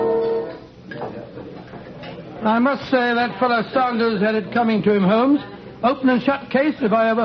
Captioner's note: People talking